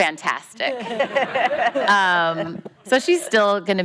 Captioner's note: laughing